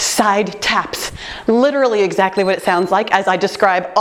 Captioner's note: timer beeps